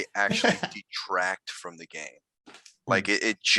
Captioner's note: laughing